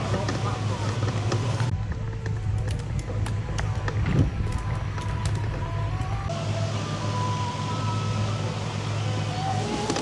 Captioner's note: aircraft engine